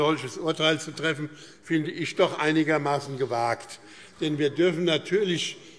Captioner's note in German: none